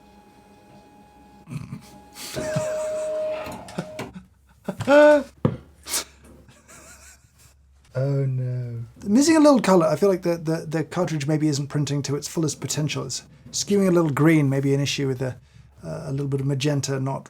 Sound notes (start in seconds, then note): 1.4 chuckling